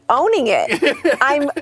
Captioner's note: laughs